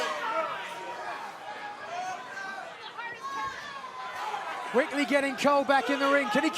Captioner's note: fans chanting